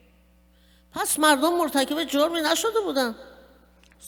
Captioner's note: speaking persian